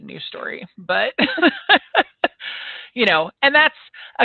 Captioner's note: laughs